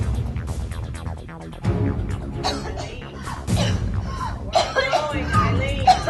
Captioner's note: coughing